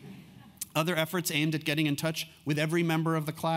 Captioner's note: laugh